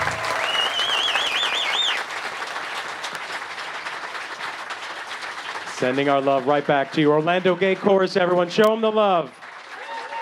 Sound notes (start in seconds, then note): 4.1 clapping; 9.5 cheering